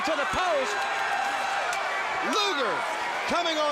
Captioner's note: crowd cheering